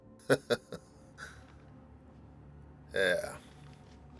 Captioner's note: huxley laughs